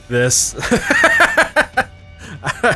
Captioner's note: laugh